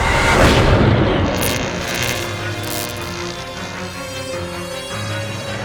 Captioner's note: electricity zapping